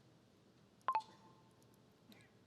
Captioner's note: computer chirps